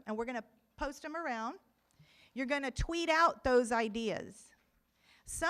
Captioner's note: none